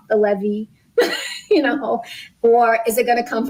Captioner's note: laughs